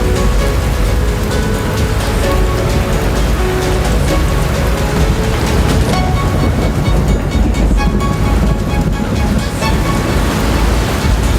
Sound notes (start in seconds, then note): 4.5 rain pattering; 4.5 thunder rumbles